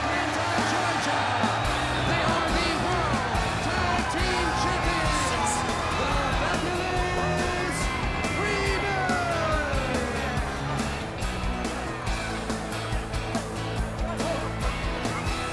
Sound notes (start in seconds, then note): 8.1 crowd cheering; 9.1 crowd chatter